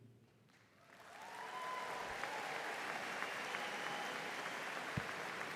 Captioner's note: audience applauding